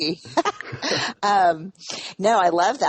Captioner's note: Brené laughs